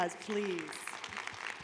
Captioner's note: applause